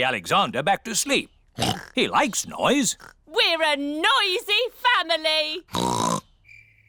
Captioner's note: oinks